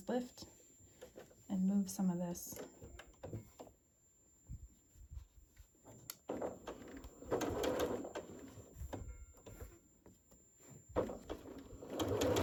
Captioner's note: sewing